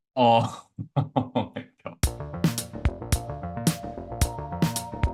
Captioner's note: laughs